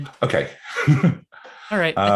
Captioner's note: chuckles